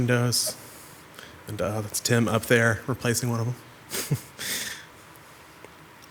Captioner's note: laughs